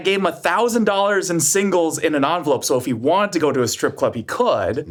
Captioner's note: none